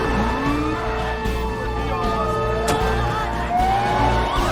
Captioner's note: chattering